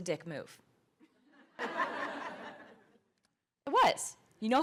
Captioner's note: laughter